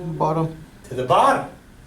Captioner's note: voiceover